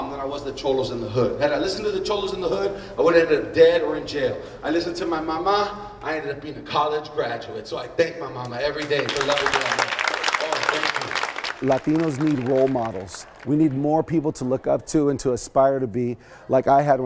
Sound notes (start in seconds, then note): 8.7 clapping